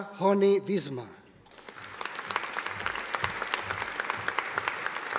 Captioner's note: audience applauding